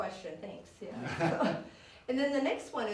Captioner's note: all chuckle